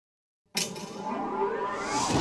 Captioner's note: clicking; whooshing